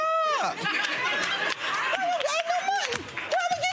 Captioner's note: audience laughing